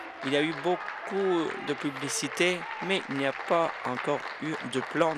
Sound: applause

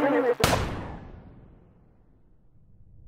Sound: gunshot; silence

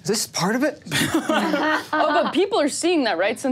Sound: laughs

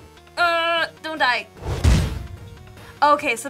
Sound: whump!

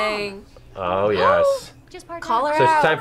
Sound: gasps

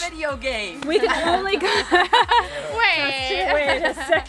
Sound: laughing

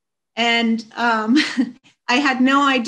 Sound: chuckles

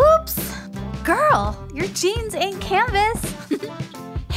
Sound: chuckle

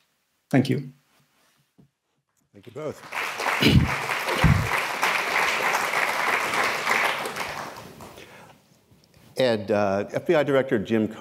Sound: applause

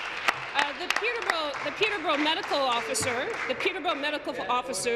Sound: applause

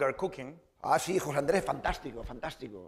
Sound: speaking spanish

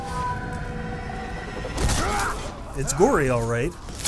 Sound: screaming

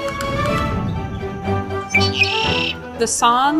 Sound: bird call

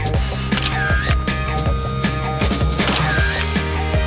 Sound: camera clicks; camera clicks

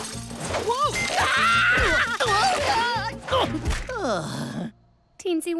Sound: yelling

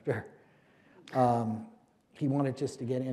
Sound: chuckle

